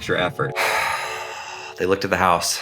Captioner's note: sighing